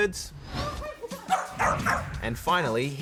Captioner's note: dog barks